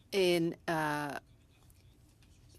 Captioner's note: speaking French